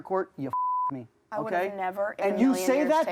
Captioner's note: beep